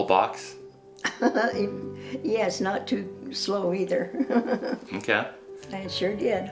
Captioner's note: laughing